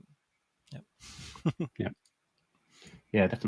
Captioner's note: laughs